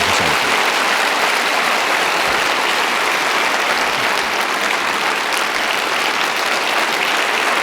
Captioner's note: audience applauding